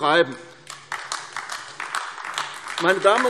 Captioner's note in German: Beifall AfD